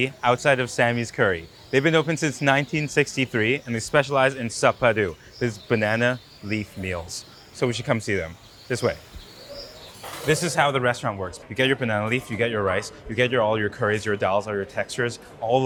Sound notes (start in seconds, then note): 9.3 patrons chatter; 9.3 wildlife chirping continues